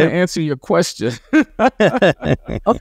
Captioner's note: laughter